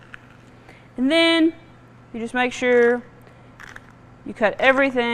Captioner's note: celery crunching